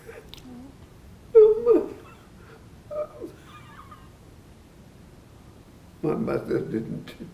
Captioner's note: crying